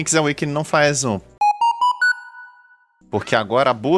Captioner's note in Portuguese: barulhinho legal de segredo